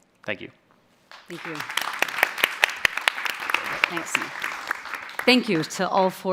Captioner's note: applause